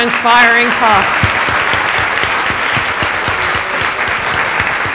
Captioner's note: applause